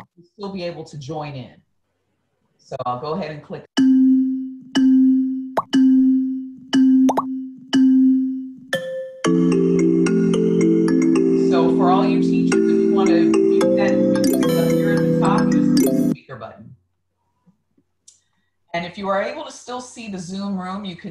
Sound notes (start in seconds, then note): 3.7 dinging